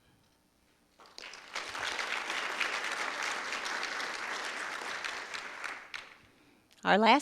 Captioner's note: audience applause